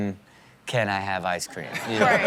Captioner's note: crowd laughs